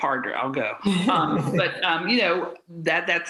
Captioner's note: presenters laugh